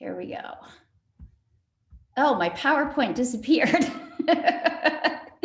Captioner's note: laughing